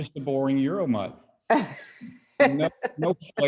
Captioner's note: laughs